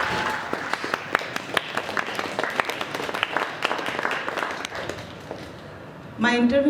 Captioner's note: applause